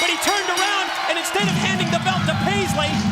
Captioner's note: bell ringing